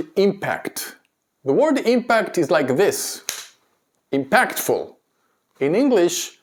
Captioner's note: clap hands